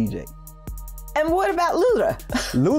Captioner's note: chuckling